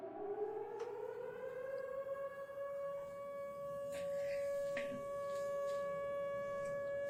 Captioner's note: air raid sirens